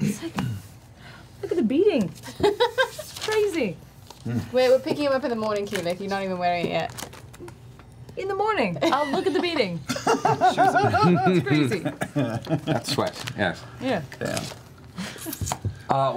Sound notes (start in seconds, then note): 2.8 laughs; 9.9 all laugh